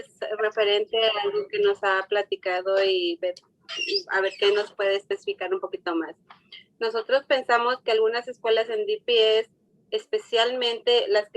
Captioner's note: speaking Spanish